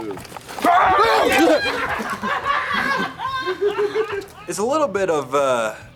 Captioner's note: group laughing